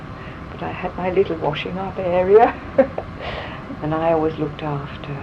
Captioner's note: laughs